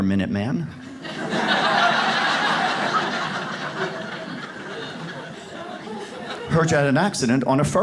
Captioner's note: audience laughs